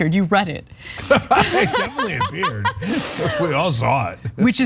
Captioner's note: laugh